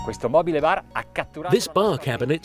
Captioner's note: speaking in foreign language